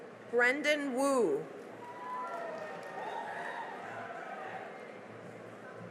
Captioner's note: cheering and applause